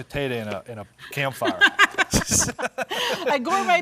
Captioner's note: both chuckling